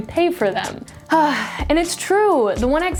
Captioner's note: sighs